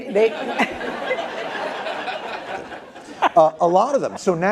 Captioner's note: laughter